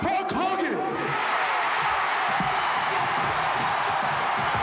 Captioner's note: audience cheering